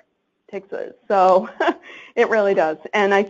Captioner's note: chuckles